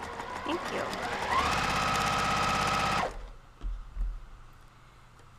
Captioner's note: sewing machine racing